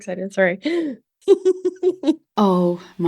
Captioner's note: laughing